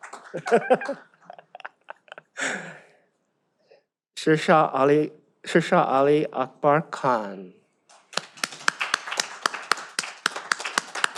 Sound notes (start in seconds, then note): 0.3 laughs; 7.9 all applaud